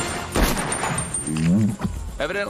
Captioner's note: gulp